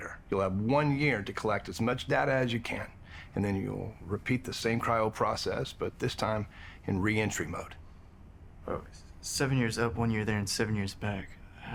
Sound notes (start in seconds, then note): none